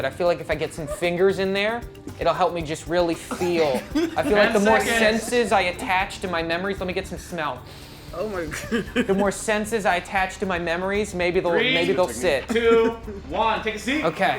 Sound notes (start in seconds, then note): 8.4 chuckles